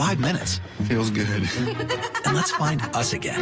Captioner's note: laughs